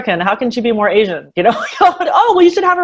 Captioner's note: laughs